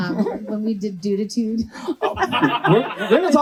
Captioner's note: laughs